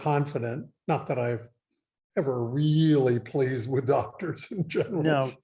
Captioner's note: laughing